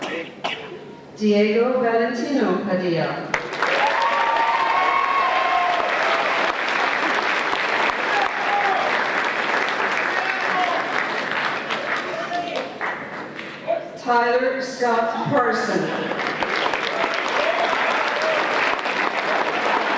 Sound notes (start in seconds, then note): 3.3 applause and Cheers